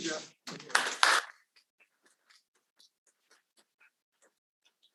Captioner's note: audience applauding